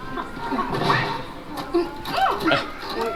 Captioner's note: groaning